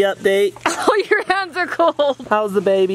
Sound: laughs

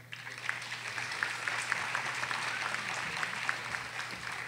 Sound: audience applauding

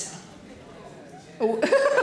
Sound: people groans

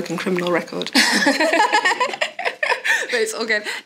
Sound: they laugh

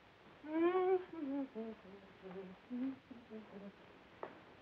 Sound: humming

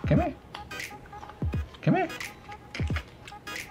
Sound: none

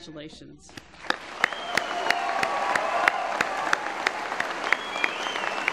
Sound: applause

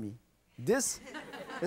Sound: audience laughs

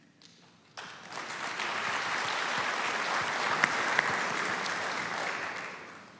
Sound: applause

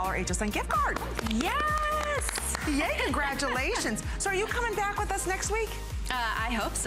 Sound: applause

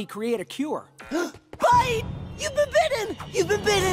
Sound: gasping

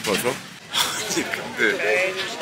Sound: laughing

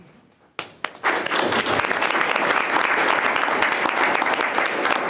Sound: board members applaud

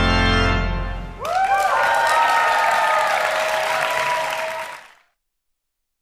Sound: congregation applauds and cheers

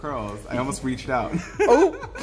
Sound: chuckles

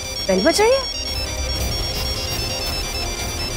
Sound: phone ringing

